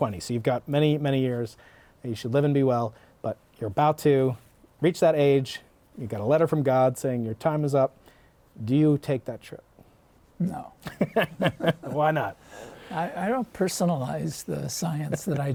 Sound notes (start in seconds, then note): 10.8 laughter